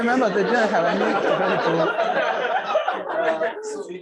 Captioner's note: laughter